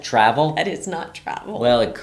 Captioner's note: laughs